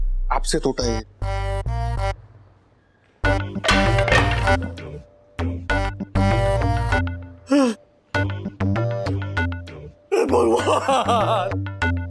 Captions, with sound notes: It broke because of you. [bat falling sound] Huh! Oh god! [comical music]